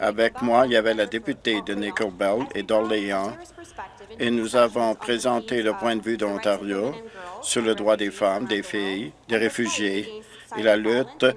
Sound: speaking French

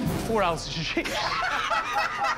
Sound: laughter

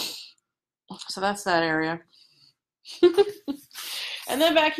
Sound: giggles

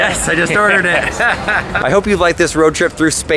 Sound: laughs

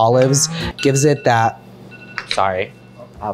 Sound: timer dinging

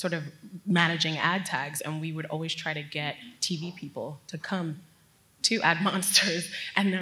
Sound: laugh

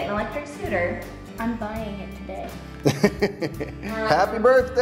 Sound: laughing

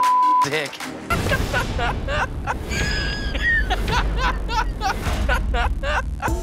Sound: man with glasses laughing

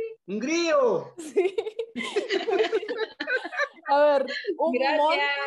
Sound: laughs

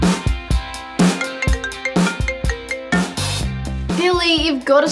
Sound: phone ringing

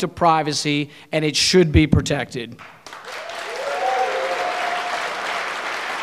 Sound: audience cheering

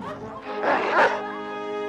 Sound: barking

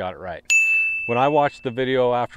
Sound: bell dings

